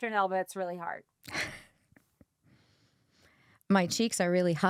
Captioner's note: chuckles